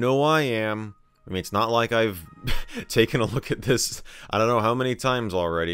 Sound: chuckles

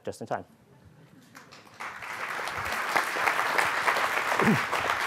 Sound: audience applauding

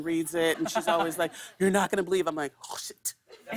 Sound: laughter

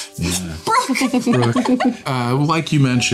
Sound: everyone laughing

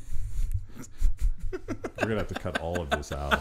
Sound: laughing

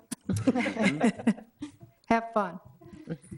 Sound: all laughing

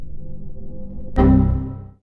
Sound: Windows XP error sound

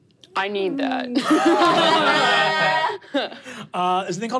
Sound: laughing

